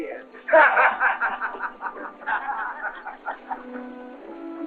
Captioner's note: men laughing